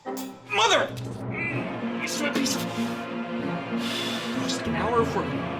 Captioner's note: exhales